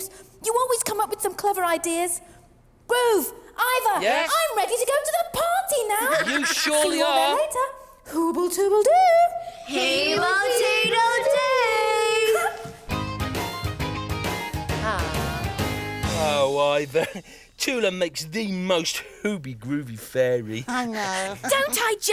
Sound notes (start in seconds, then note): 5.9 Iver laughs; 12.2 Tula giggles; 12.9 upbeat music; 20.6 laughs